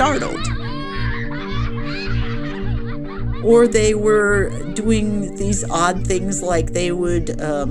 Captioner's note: soundbite of children laughing